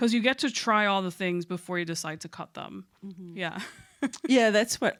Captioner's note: chuckles